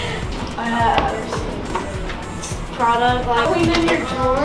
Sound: laughs

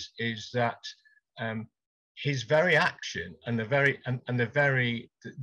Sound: none

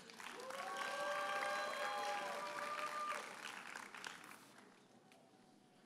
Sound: audience cheers and applauds

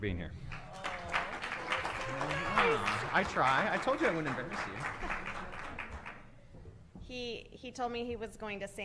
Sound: applause

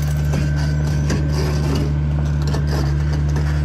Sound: creaking

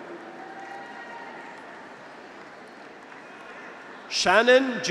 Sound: graduates cheer; audience applauds

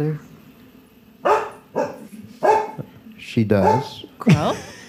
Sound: Macy barks

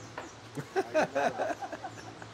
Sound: laughter

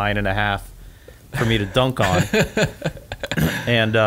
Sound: laughs

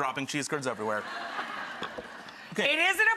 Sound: crowd laughing

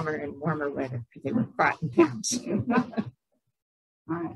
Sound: laughter

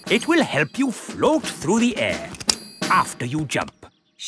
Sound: clicking

